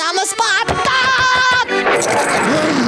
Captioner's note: laughing